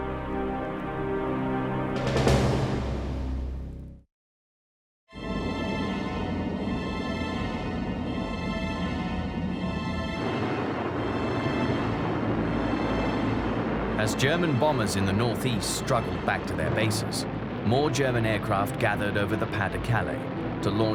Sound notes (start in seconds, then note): 6.8 dramatic music; 10.7 plane engines roaring